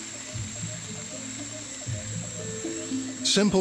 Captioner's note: rain pattering